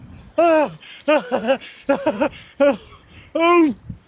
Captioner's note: laughter